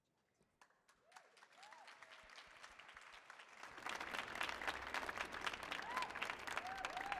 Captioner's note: audience clapping; audience cheering